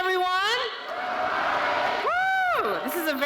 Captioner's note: crowd